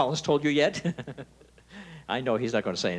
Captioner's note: chuckling